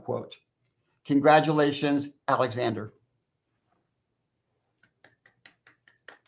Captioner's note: claps hands